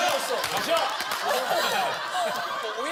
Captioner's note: laughter